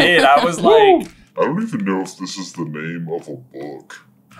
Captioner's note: deep and slow